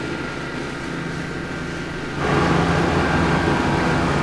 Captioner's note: tractor engine